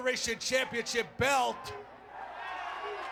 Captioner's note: applause